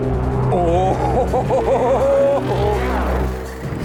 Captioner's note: manic laughing